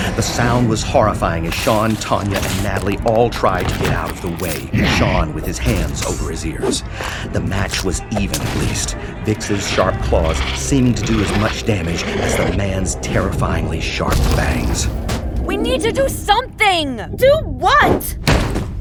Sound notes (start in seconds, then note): 15.9 yelling over the sound